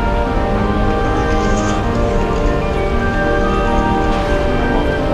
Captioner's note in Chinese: 電話響